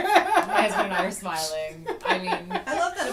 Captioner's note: laughter